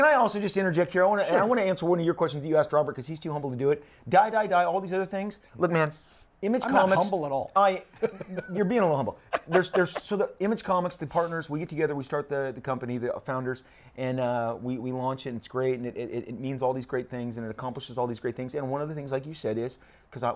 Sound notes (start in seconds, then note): 9.2 chuckles; 9.2 laughs